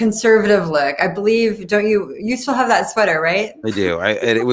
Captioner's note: laughs